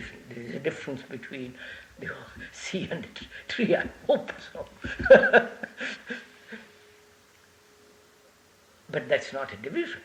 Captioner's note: laughs